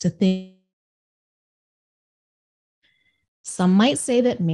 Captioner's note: audio drops out